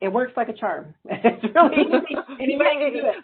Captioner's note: laughter